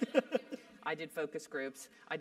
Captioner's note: laugh